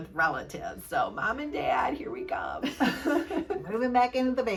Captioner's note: both laugh